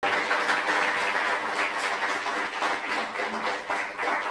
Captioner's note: applause